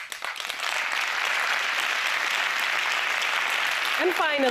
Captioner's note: applause